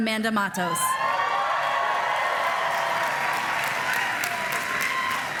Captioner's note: applause